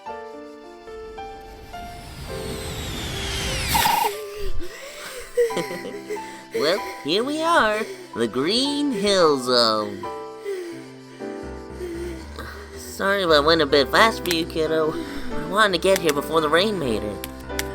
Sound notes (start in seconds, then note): 3.8 chuckles